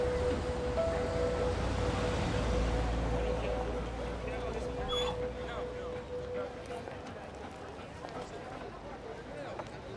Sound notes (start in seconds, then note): 4.3 Larry whines